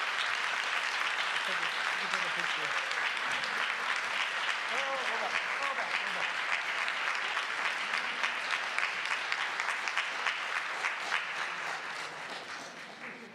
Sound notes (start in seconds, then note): 0.0 applause